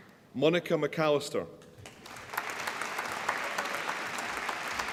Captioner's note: applause